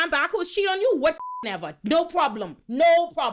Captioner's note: beep